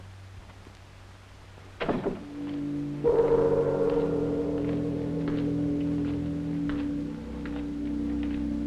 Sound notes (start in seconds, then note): 0.1 door thunks; 2.2 ominous music; 2.3 footsteps approaching